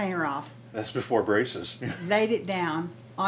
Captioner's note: chuckles